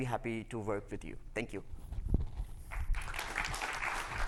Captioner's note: applause